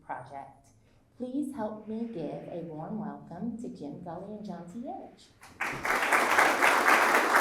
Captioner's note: applause